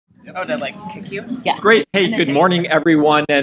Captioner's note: chattering